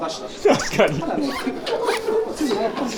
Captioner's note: laughs